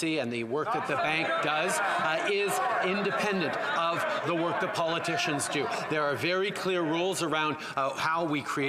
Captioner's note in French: voix de l'interprète